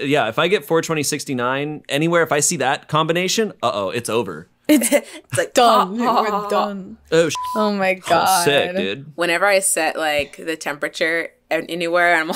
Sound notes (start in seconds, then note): 7.3 beep